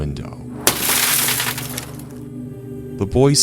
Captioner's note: glass breaking